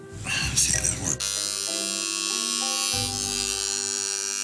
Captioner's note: buzzing